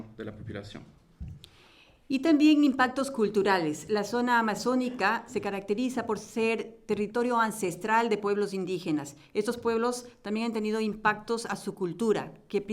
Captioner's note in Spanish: Español